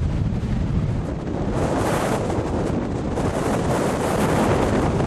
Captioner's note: wind howling